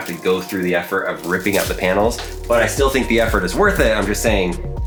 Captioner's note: wires rattling